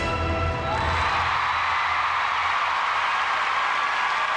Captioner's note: cheering